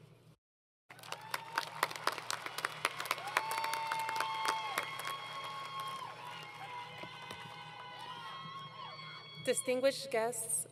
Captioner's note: crowd Cheering